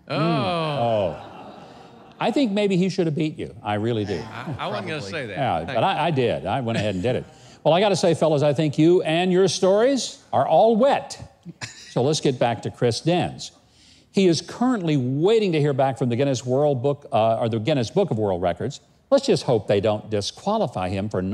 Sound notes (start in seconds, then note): 0.1 laughs